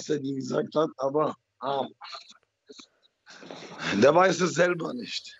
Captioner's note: laughs